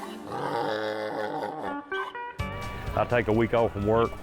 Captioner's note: braying Mule